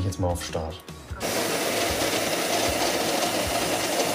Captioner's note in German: Maschinengeräusche